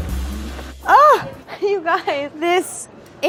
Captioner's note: gasps